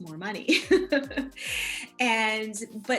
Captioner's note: laughs